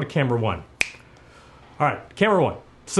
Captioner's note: snaps